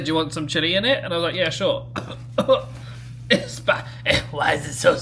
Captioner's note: coughs